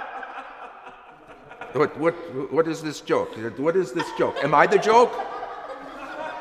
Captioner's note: laughing continues